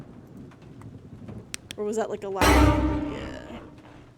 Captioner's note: flashlight Clicks On; suspense Noise